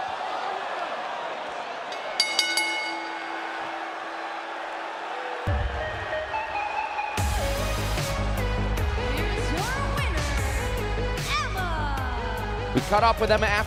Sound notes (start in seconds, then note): 0.2 cheers & applause; 3.4 bell